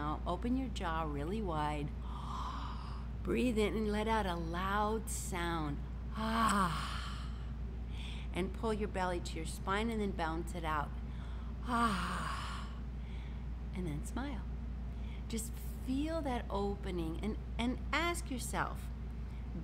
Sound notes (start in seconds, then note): 2.0 inhales deeply; 6.2 sighs; 11.6 sighs